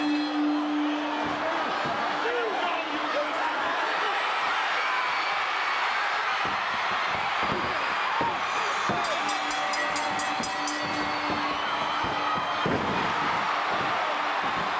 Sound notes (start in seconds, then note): 4.3 bell ringing; 4.3 crowd cheering